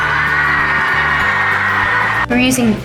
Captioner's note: applauding and cheering